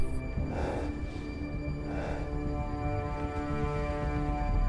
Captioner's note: heavy breathing